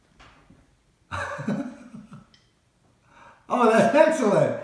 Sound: Mo laughing

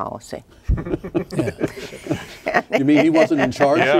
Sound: laughing

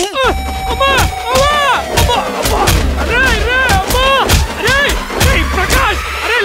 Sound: groans

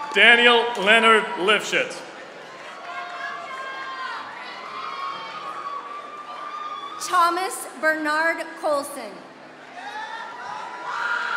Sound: applause

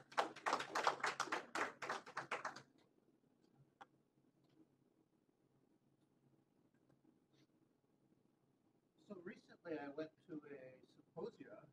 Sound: applause

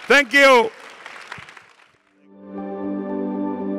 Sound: audience applauding; gentle music

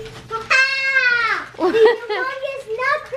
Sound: exclaims

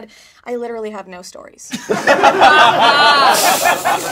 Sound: laughing

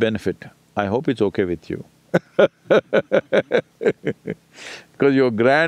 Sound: laughs

